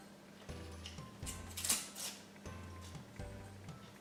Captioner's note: onion skin rustles